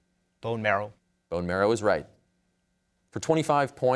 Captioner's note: none